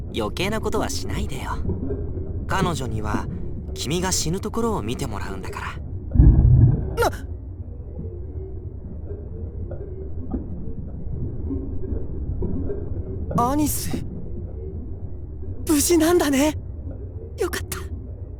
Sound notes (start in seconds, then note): 7.3 alert